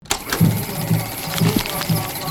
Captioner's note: projector starting; tribal chanting